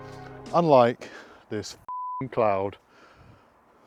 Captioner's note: beep